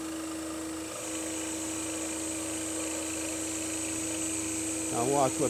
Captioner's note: sawing